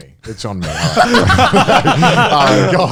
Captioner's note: men laugh